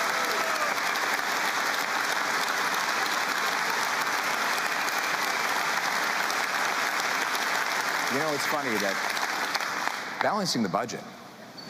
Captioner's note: cheering